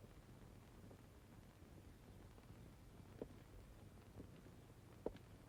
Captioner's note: none